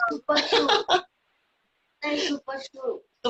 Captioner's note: laughing